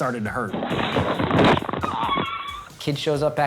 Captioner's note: cart crashing